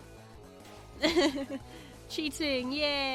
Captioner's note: laughs